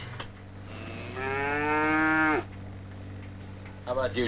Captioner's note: Pete mooing